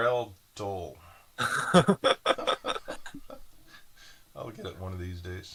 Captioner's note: both laughing